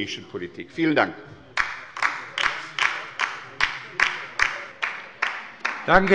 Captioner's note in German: Beifall bei der LINKEN